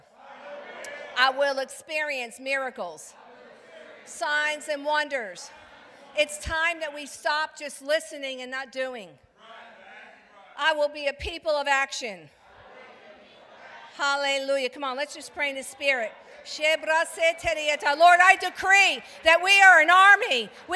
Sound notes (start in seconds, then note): 16.6 speaking in tongues